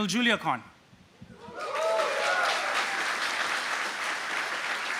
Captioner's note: applause